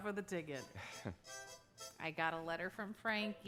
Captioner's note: frank chuckles; chuckles